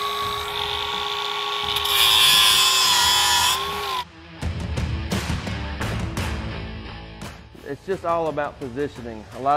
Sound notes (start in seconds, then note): 2.1 metal grinds; 3.8 rock music